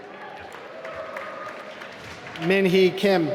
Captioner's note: applause